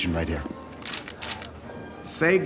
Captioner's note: camera shutters click